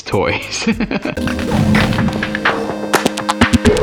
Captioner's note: laughter